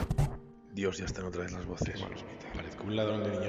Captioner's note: whisper